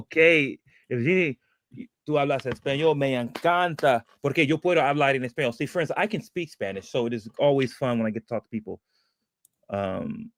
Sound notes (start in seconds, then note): 2.6 speaking spanish